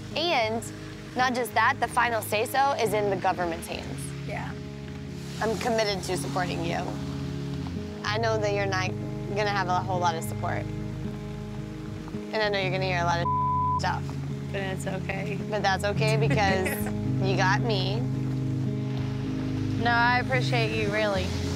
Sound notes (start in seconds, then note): 13.2 beep